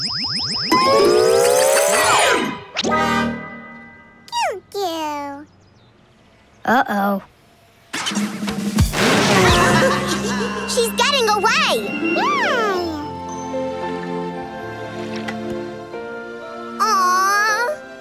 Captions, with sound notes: Goo goo. Uh-oh. [laughing] She's getting away. [cooing] Aw.